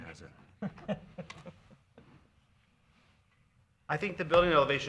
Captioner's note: man chuckles